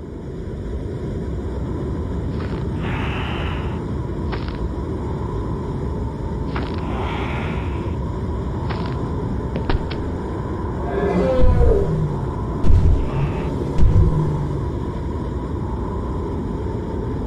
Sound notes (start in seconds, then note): 2.7 Wilson breathes heavily; 10.6 mammoth calls